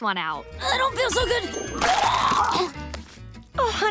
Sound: retching

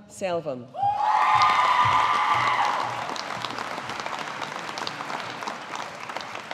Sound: audience applauding

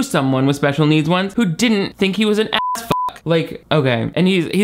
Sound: beep

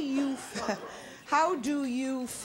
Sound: laughs

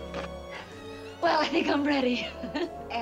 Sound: giggles

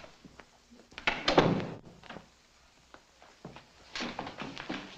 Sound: door thuds shut

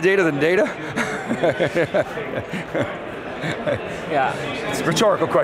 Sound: laughs

